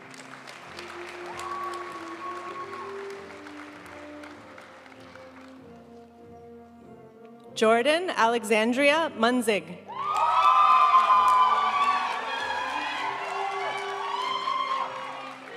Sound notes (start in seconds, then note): 0.0 audience cheering and applauding; 3.3 graduation music; 9.9 audience cheering and applauding; 12.6 graduation music